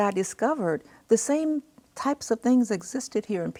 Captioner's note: none